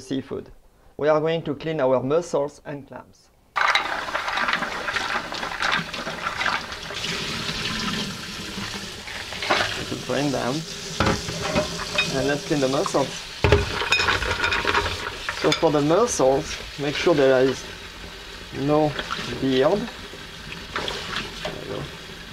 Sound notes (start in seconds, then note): 3.1 running water